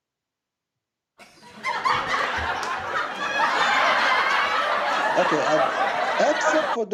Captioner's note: Ketawa